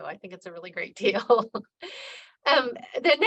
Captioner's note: laughing